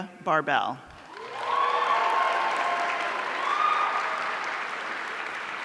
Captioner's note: audience cheering